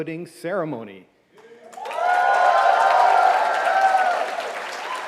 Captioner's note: cheering